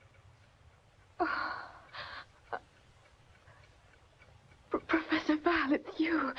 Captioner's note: gasping